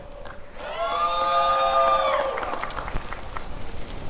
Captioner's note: applause and cheering